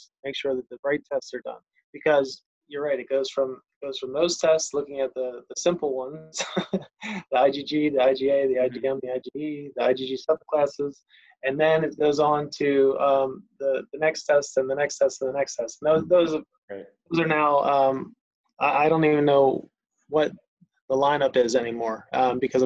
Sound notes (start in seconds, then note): 7.2 laughs